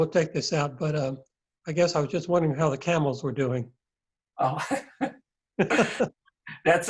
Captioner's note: laughs